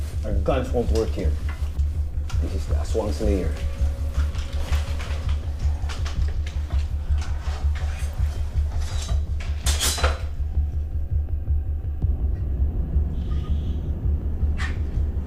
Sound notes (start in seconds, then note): 8.9 metal clinking